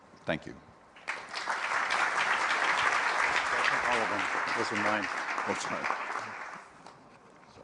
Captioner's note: applause